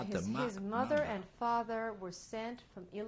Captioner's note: speaking yiddish